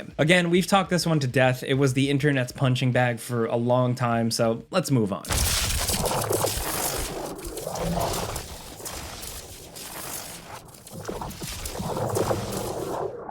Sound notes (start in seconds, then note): 6.1 force field whooshing